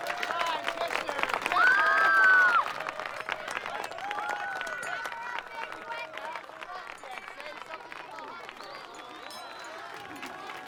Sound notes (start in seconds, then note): 1.5 screaming